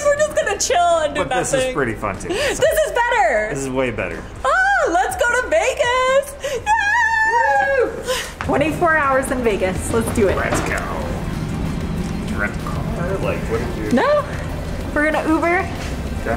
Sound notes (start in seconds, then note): 6.6 squealing